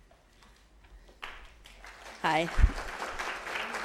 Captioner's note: audience applauds